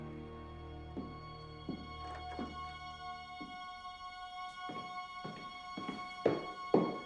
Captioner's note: tense music; footsteps tapping